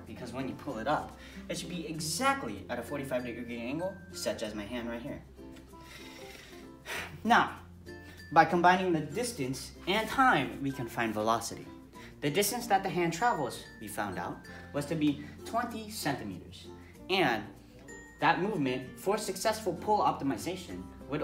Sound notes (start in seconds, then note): 5.7 exhale; 5.7 inhale